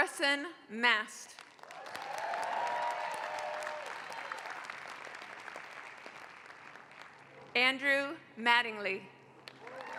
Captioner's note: applause; applause